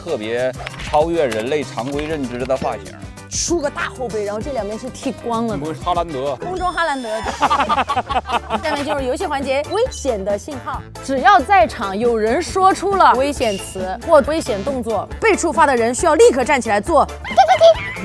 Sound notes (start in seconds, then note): 2.6 laughs; 17.2 laughs